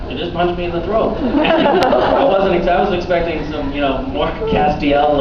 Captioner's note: laughing